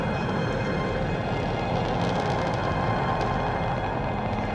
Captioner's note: engines roaring